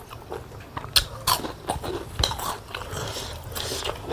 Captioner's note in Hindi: none